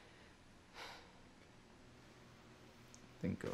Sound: sighs

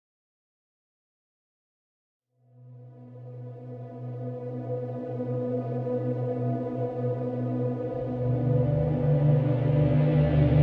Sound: creeoy ambience

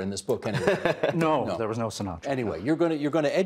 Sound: laughing

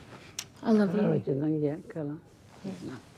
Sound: speaks luritja dialect

